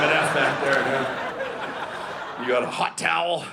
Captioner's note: audience laughing